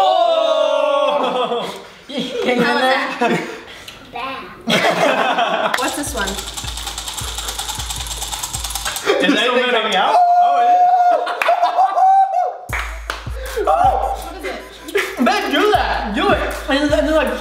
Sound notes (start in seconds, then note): 4.6 laughter; 5.8 candy clinking; 9.5 laughter; 10.0 screams